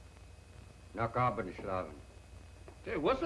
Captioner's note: speaking german